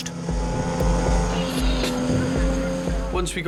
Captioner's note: outboard droning